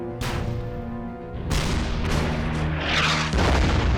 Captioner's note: cannons firing; shells exploding